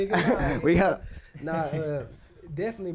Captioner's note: laughing